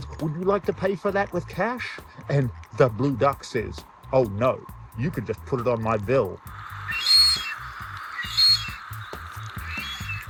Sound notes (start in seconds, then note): 6.5 duck whistling